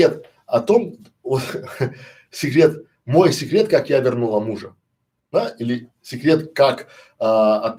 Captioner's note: Смеется